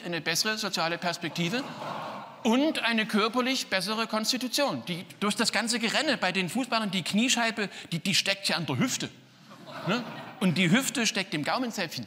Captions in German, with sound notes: Es lief? Und jetzt rate, wer sich nicht die Hände gewaschen hat. *lacht hämisch.* Alter, ey, es lief wie am Schnürchen.